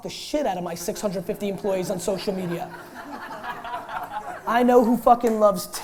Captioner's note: laughter